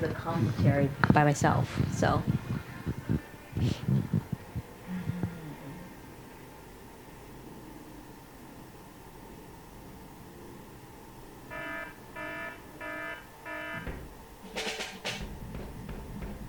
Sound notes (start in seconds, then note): 11.5 klaxon alarm; 14.4 drumming